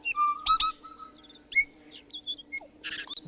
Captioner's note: birds chirping